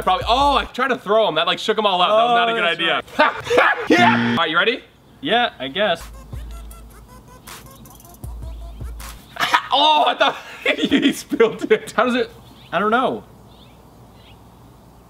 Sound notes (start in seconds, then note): 3.9 buzzer; 6.0 upbeat music